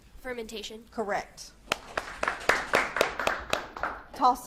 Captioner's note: audience claps